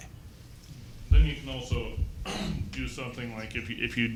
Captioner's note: clears throat